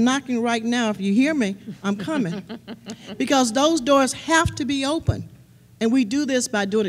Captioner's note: laughter